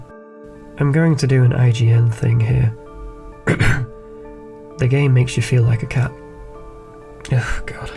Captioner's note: clears throat